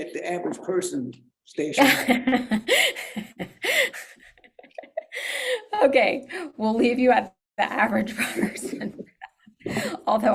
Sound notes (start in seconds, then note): 1.8 laughs; 8.1 laughs